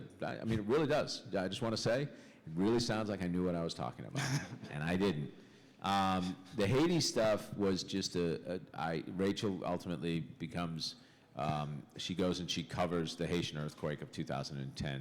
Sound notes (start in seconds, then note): 4.1 laughter